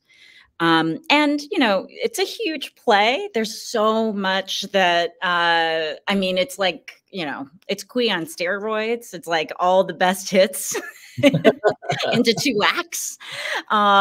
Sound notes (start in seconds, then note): 11.1 laugh